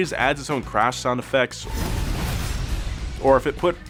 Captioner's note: mild crash sound effect resounds